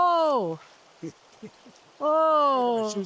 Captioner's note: laughter